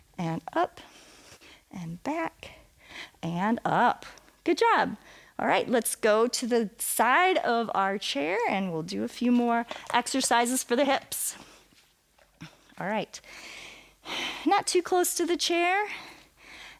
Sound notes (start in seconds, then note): 13.2 inhales and exhales